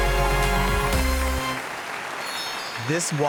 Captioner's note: audience applauding